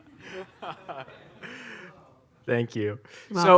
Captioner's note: laughs